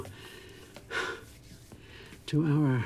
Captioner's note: sighs